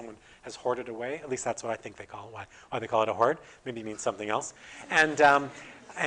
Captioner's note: audience: Laughter